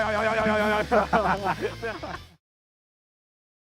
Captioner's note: Cody laughs; Timothee laughs